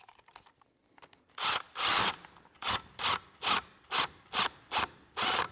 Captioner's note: screw drill whirring